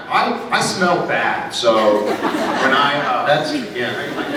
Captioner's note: laughs